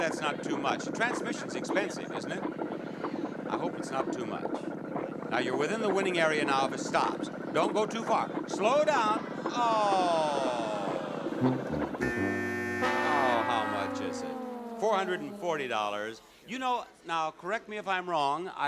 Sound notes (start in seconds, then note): 9.6 audience awing; 9.9 buzzer